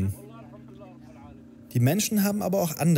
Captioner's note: quiet babble